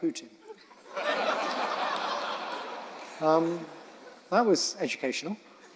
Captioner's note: audience laughing